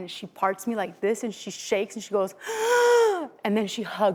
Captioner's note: gasping